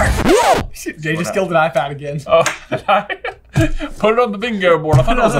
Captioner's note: record scratch; laughs